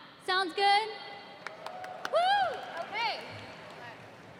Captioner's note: cheers